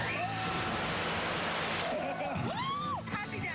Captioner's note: screaming